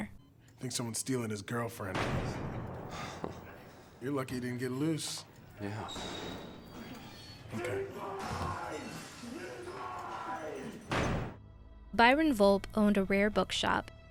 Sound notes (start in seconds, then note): 2.3 muffled metallic banging; 6.4 banging continues; 7.4 Volpe, muffled screaming